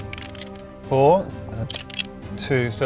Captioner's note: die rattling